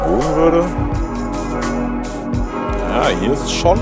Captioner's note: bell ringing